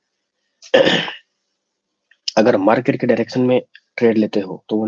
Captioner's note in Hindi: गला साफ़ करने की आवाज़